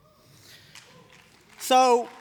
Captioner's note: applause